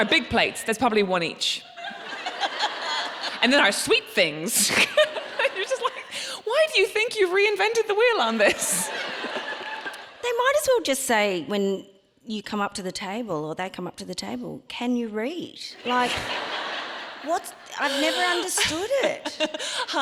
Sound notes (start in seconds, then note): 1.7 audience laughing; 4.6 laughs; 8.4 audience laughs